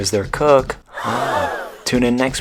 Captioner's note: gasp